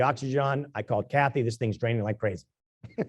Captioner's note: laugh